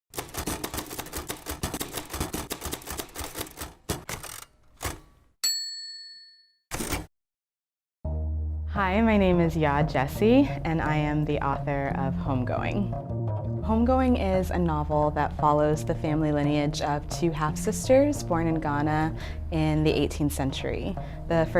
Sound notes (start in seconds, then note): 0.1 typewriter sounds